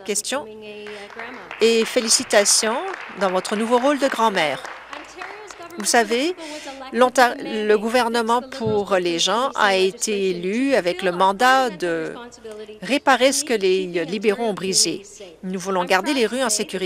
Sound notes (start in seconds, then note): 5.6 applause